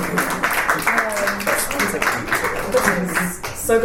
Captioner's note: panellists and audience applaud